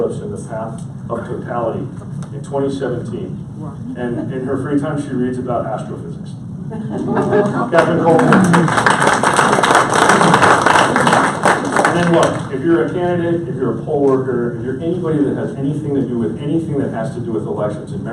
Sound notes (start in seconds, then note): 6.7 audience laughs; 7.7 audience applauds